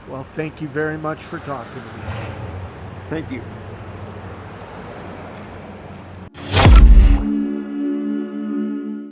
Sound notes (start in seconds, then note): 6.4 engine whirring; 6.4 logo whooshing